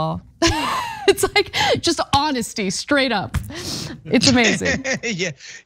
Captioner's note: laugh